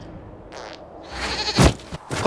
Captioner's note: splat